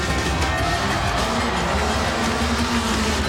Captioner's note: crowd cheers